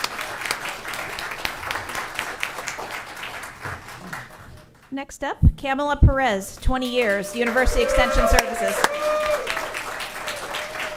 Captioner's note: applause